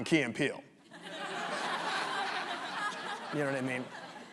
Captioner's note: audience laughs